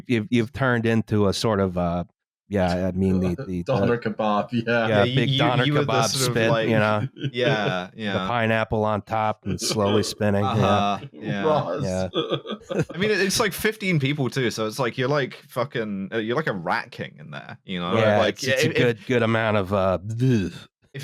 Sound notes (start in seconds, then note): 2.7 chuckles; 9.5 chuckles painfully